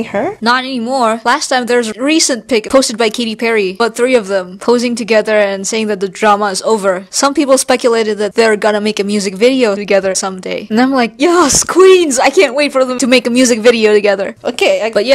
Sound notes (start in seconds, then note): none